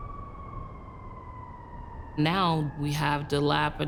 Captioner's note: siren blaring in distance